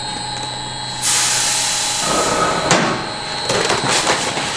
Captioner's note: grain spilling